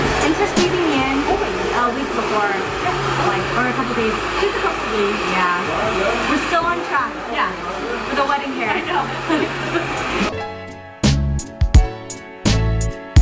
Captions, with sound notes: Thanks for squeezing me in a week before. Or a couple days. - Just a couple days. - Yeah, we're still on track. - Yeah. - The wedding hair. - (laughs) I know. (hip hop music)